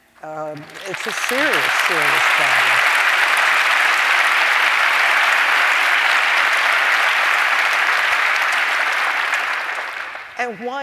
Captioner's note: applause